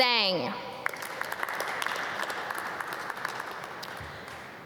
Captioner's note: audience clap